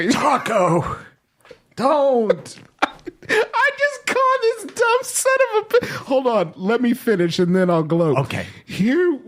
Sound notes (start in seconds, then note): 2.1 laughing